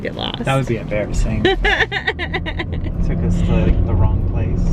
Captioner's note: laughing